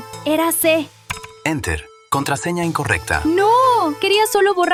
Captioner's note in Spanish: tecleo